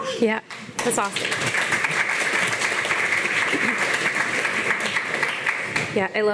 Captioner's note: audience clapping